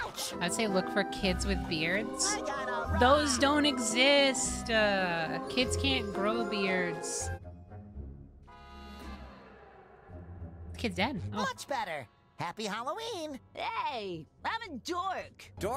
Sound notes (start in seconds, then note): 0.0 SpongeBob Voice; 11.2 SpongeBob Voice